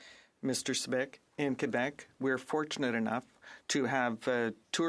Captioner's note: speaking French